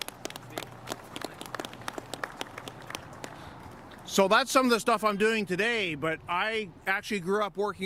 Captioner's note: applause